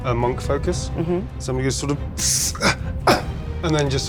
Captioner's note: groans